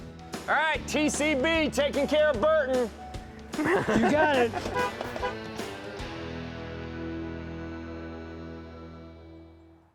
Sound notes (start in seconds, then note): 3.5 laughing; 4.7 honking